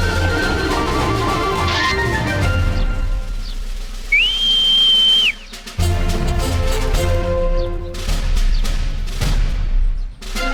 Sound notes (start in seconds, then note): 4.0 whistling